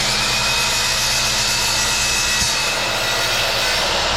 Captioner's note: drill whirring